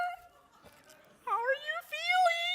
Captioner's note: audience laughing